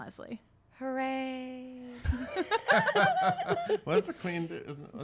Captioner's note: laughs